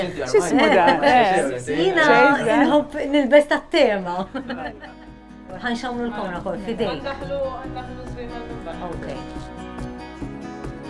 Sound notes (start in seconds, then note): 4.2 laughs; 9.7 acoustic music